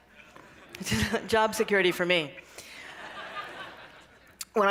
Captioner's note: laughter